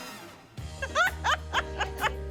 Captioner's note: laughs